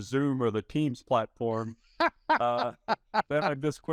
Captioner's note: laughing